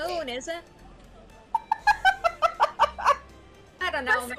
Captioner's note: laughs